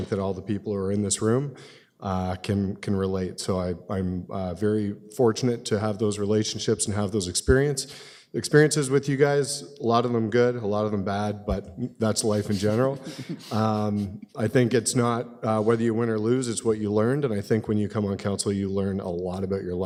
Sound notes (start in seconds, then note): 12.6 laughter